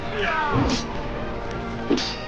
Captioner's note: metal clanging